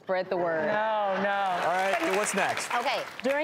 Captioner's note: audience applauds